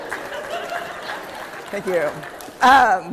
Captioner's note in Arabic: ضحك